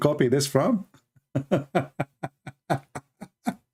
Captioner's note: Ketawa